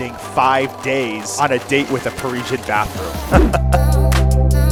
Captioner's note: chuckles; energetic music